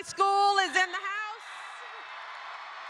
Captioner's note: applause